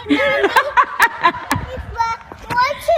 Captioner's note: laughing